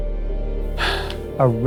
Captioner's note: sighs